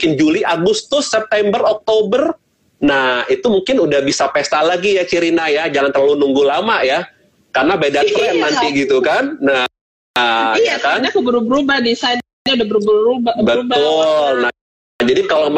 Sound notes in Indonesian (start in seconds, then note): 11.1 Tertawa